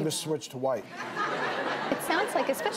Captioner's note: crowd laughs